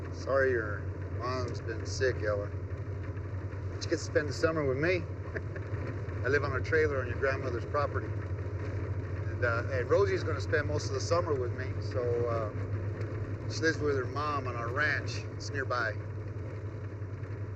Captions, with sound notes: Sorry your mom's been sick, Ella. But you get to spend the summer with me. (laughs) I live on a trailer on your grandmother's property and Rosie's gonna spend most of the summer with me. She lives with her mom on a ranch, it's nearby.